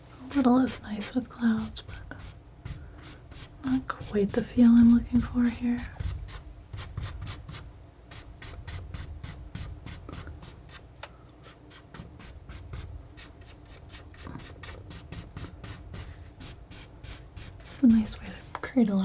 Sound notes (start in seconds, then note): 5.9 scratching noise